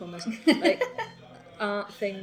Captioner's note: laughs